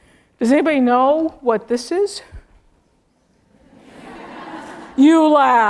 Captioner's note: laugh